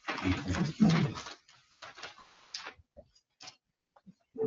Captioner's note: members chattering